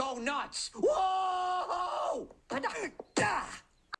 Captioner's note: Moe screams